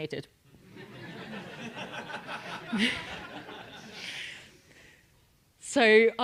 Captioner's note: laugh